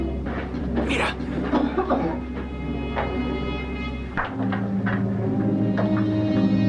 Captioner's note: miner coughs